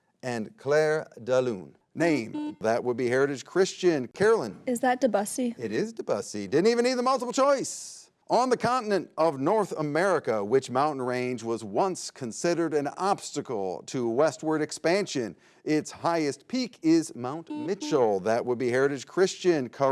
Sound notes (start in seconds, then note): 2.2 button blips